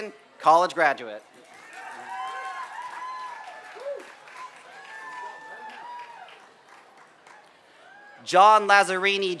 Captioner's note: applause